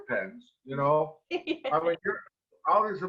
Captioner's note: laughs